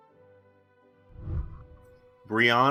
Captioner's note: whooshing